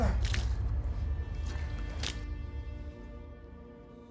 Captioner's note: liquid pouring